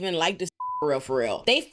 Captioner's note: beep